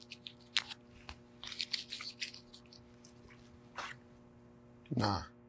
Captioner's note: wrapper crackling